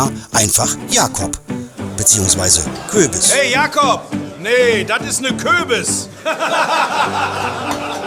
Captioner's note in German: gelächter